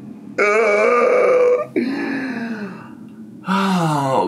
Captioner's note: groans